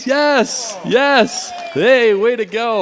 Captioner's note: cheering, applause